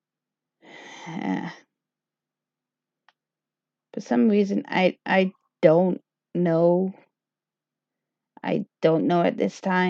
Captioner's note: sigh